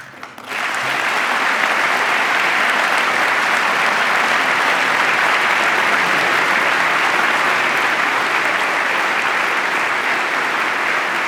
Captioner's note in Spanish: aplauso